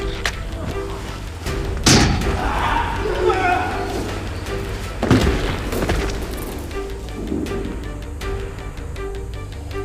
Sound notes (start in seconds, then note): 1.9 clanking; 2.0 men groaning; 3.7 thudding